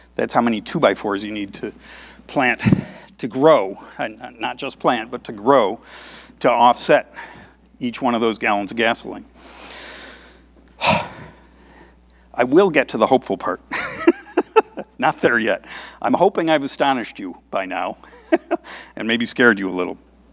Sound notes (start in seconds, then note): 13.8 laughs